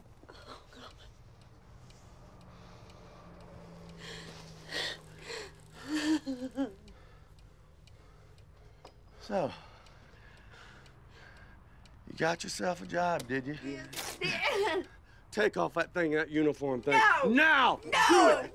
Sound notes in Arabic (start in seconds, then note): 2.1 دقات الساعة